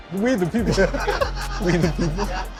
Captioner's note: both chuckling